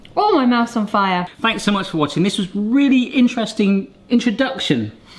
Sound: none

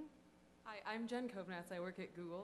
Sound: voiceover

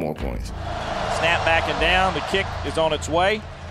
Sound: voiceover

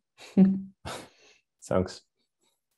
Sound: chuckles

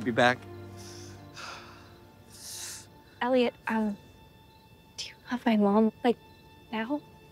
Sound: sighs

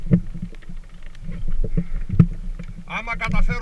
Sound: boat sounds

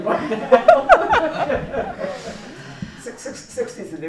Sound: laughter

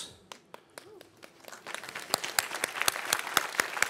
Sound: applause

